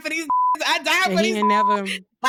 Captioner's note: beep